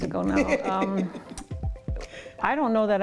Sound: host laughing

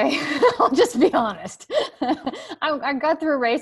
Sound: laughs

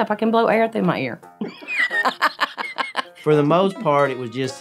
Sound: laughing

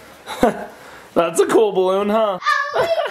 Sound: chuckles

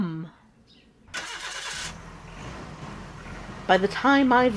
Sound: truck starts up and drives off

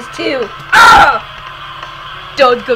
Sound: minecraft death sound earrape

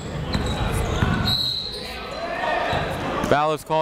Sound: whistle

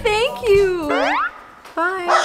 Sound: exaggerated bounce

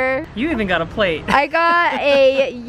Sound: laughs

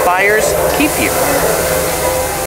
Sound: gas sprays

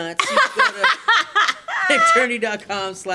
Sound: laughs loudly

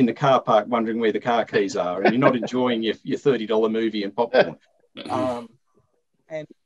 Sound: laughter

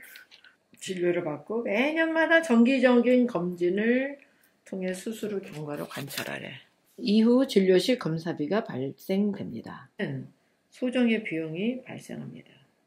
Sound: reading in korean

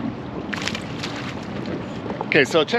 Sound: fish splashing

